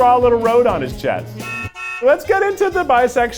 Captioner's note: car horn beeping